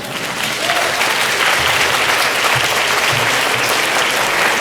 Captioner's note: applause